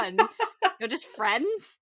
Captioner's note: laughs